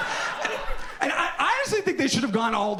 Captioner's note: audience laughs